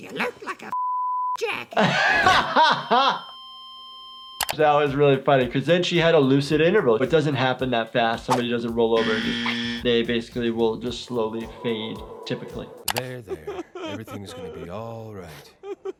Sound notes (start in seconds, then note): 1.7 laughing; 2.1 machine beeping; 2.6 beeping